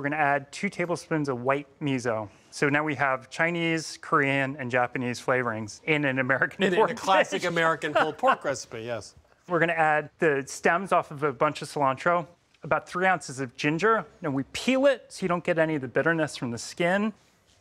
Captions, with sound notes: we're going to add two tablespoons of white miso. So, now we have Chinese, Korean, and Japanese flavorings in an American pork... (laughing) - In a classic American pulled pork recipe, yes. - We're going to add the stems off of a bunch of cilantro, about three ounces of ginger. Now we peel it so you don't get any of the bitterness from the skin.